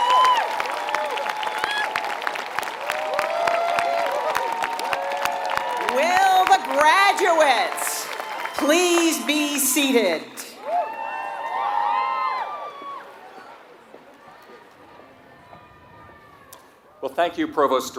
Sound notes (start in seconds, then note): 0.2 applause; 11.6 applause